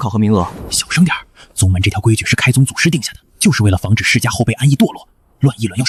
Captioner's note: whispering